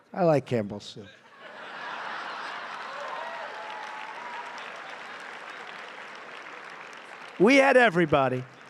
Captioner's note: laughter and applause